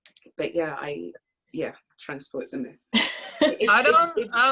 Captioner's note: laughs